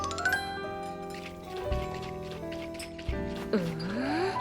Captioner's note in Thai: เสียงเขย่าค็อกเทล